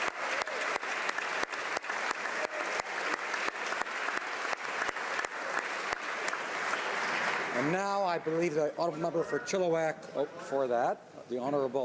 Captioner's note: applause